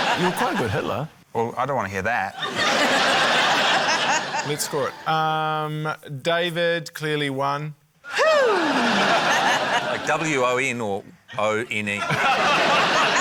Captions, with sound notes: - You were quite a good Hitler. - Well, I don't want to hear that. (LAUGHTER) - Let's score it. David ― clearly one. - (EXCLAIMS) - Like 'W-O-N' or 'O-N-E?' (LAUGHTER)